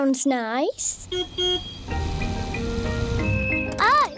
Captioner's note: car horn beeps